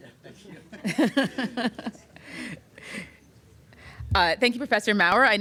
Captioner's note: laughter